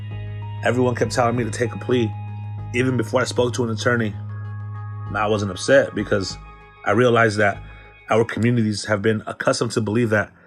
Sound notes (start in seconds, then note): none